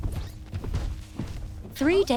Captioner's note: footsteps